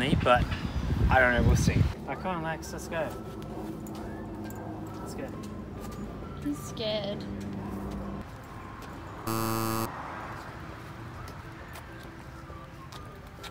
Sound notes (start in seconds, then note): 3.5 light music; 9.2 buzzes